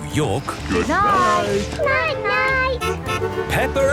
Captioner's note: honking